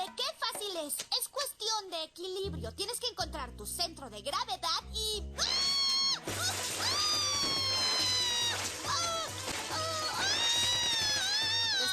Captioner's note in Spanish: grita